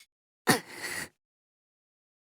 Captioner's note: seething